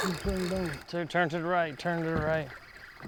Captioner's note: fishing reel buzzing